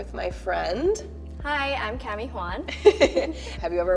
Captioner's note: giggling